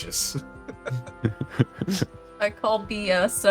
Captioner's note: laughter